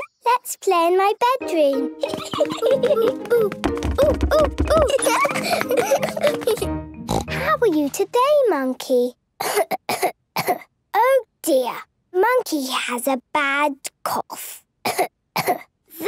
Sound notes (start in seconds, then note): 3.8 laughs; 7.0 snort; 9.4 she pretends to cough; 15.4 pretending to cough